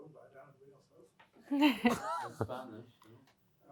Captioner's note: laughter